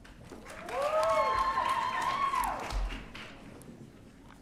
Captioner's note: audience cheering